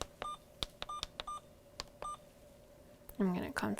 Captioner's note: Alaris pump beeps